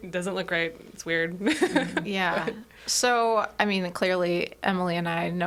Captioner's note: laughs